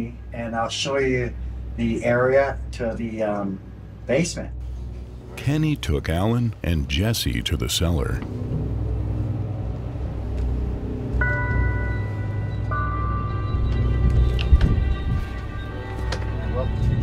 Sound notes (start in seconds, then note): 11.2 bells tolling; 14.1 suspenseful music